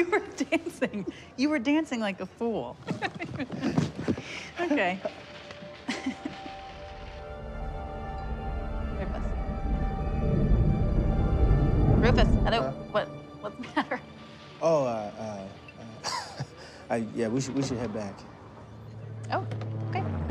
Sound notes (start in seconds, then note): 2.9 laughs; 5.8 chuckles; 9.8 tense, dramatic music